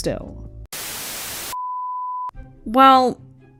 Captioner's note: static